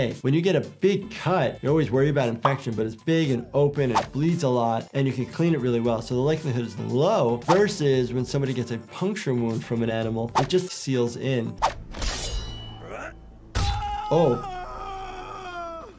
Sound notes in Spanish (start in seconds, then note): 11.9 sonido de espadas; 13.6 Linterna Verde gritando